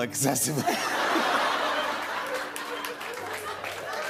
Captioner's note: laughter; applause